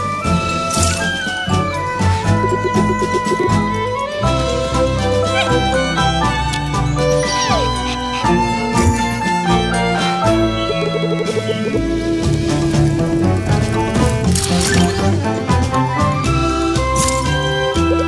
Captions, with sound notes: You're really selling all that? Yip! *Panting* Your offering is lacking...